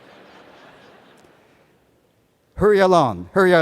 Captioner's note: laughter